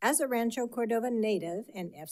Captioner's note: none